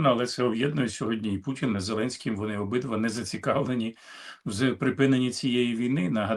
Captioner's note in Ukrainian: сопіння